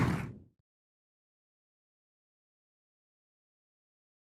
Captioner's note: attendees applauding; wind whooshing